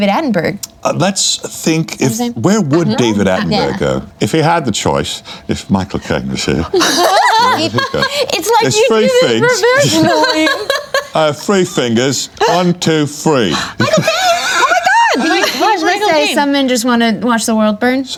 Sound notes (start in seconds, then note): 6.8 freaks out